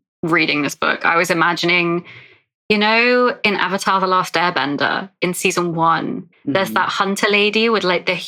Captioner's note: whispers